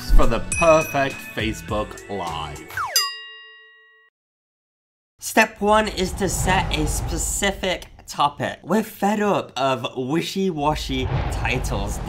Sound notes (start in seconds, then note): 2.9 bell rings